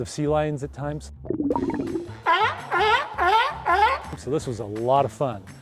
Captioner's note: water bubbling; sea lion barking